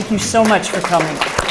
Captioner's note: applause